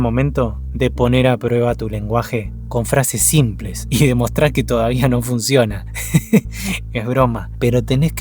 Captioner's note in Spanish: risas